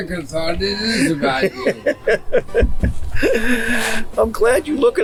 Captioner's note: laughs